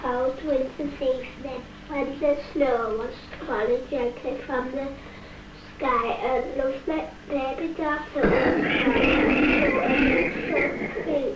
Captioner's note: coughing